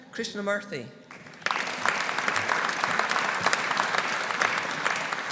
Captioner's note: audience applauding